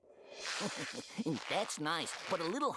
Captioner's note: chuckling